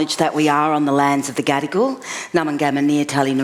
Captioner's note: foreign words